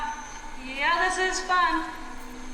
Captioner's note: sarcastically